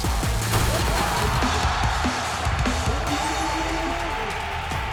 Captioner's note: rap music; crowd cheering; rock music